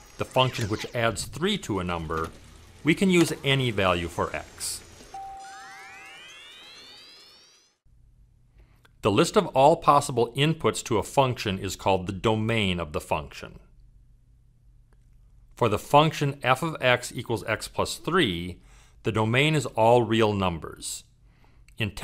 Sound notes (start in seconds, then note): 5.1 bell dings; 6.1 machine whirs